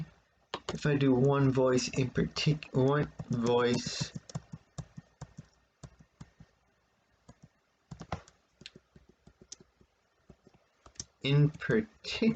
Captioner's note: click of trackpad; tapping of computer's keyboard